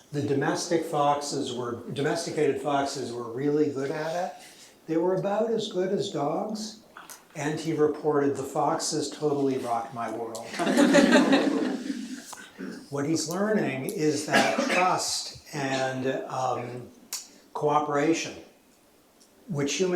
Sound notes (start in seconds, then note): 10.5 laughter